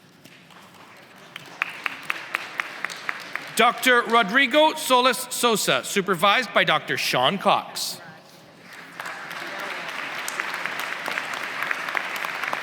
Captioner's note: applause